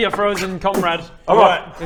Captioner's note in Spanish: Boopf